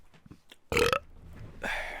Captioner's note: belch